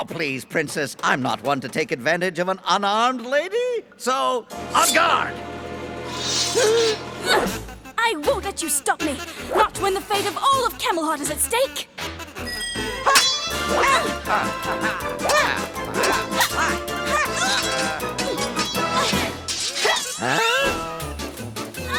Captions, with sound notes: Count Geoffrey! Please, Princess, I’m not one to take advantage of an unarmed lady. So, en garde! (Gasping) I won’t let you stop me! Not when the fate of all of Camelhot is at stake. (Swords clanking) (Grunting)